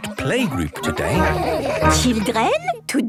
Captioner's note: children giggling